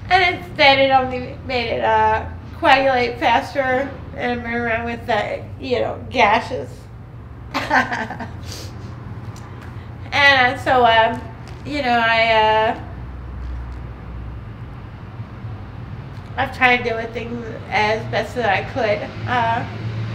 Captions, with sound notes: And instead it only made it coagulate faster and I'm running around with gashes (laughing). And so, I've tried doing things as best that I could.